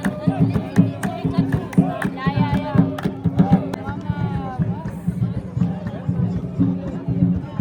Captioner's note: speaking German